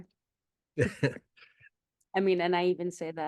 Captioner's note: laughs